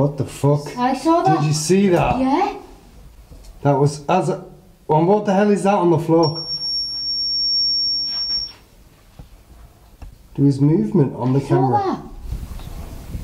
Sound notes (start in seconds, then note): 6.2 loud beeping